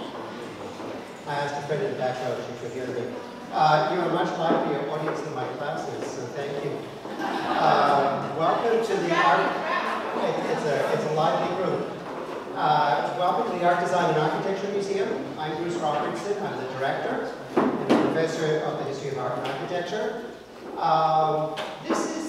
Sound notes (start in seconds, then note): 7.1 laugh